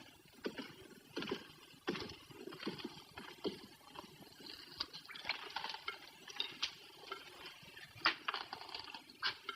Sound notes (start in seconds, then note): 5.5 water dripping